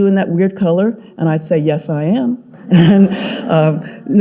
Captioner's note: audience laughing